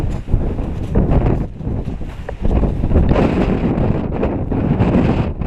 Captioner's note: strong wind blowing